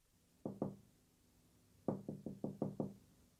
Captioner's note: SFX: knocking on door